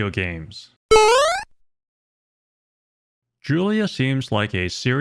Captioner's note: video game sound effect